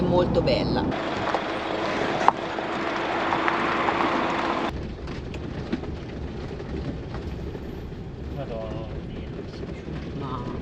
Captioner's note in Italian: Applauso